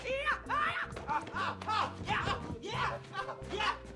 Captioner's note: chuckles